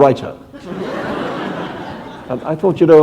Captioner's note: laughter